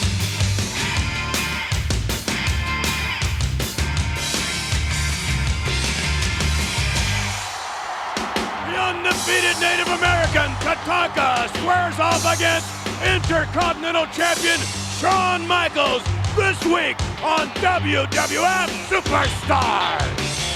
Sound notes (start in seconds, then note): 0.2 upbeat music continues; 7.2 audience cheers